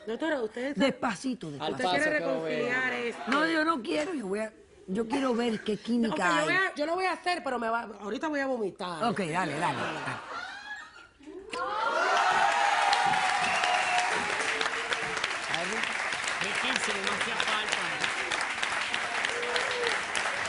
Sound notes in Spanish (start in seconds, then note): 11.5 Aclamaciones; 20.2 Aplausos